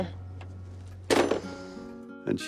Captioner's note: slams receiver down